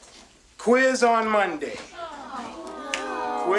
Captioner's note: children groaning